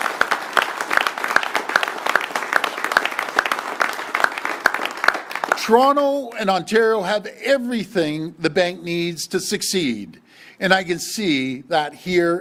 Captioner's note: applause